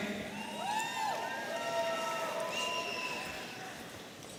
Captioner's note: audience cheering